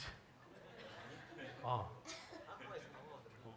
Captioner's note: audience laughing